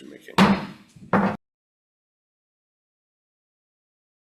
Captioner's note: gavel bangs